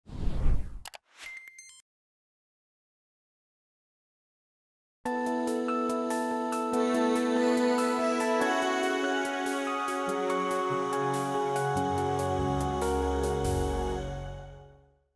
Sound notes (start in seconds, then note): 0.0 whooshing; 1.0 clicking; 1.2 beeping; 5.1 whimsical instrumental music playing